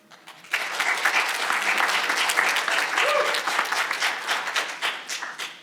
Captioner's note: audience applauding